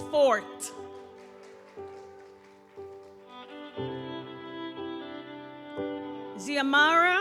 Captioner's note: audience applauds; gentle music continues